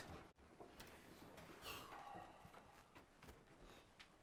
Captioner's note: sound of officers getting up